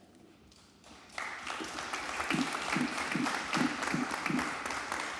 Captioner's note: audience applauding